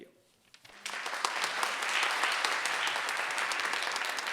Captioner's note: audience clapping